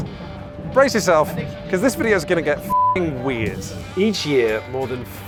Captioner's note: beep